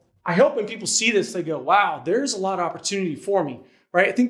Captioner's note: none